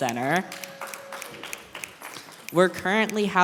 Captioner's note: applause